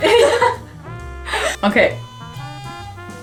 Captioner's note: doorbell rings